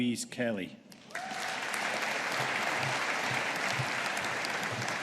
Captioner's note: audience applauding